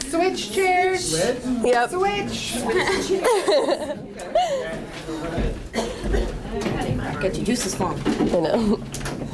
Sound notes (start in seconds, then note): 2.7 laughter